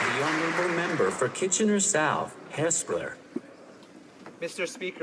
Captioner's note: applause